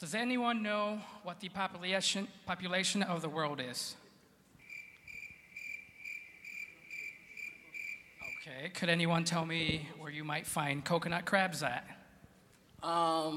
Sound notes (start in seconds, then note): 4.6 crickets chirping